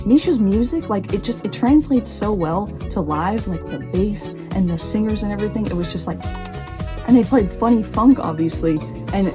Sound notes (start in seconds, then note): 6.2 nibbling noises